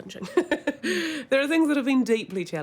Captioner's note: laughs